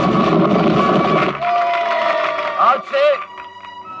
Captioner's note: crowd cheering